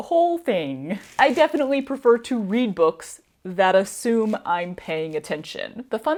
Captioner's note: mic impression; with fuzzy sounds